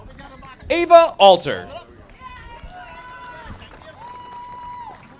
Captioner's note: audience applauding